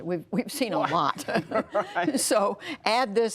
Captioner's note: laughter